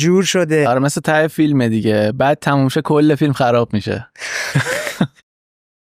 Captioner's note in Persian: خنده